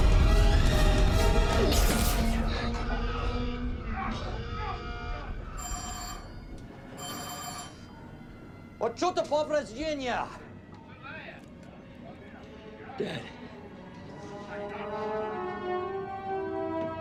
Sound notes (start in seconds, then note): 5.5 ringing; 7.7 speaks Russian; 10.4 male voice over radio, speaks in Russian